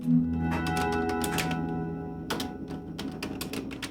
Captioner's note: bell ringing